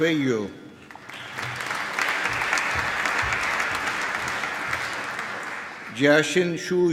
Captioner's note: applause